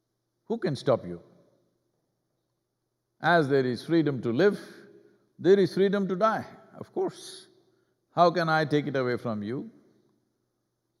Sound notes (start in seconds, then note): none